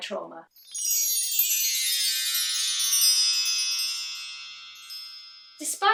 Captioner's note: chimes